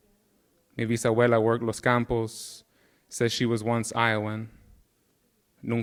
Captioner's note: speaking in Spanish